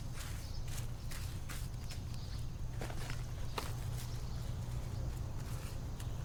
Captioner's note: birds chirping